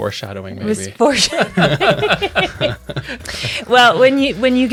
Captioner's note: all laughing